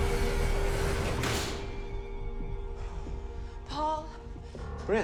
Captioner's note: tense eerie music intensifies; door clicks